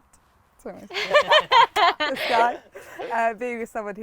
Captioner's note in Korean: 웃음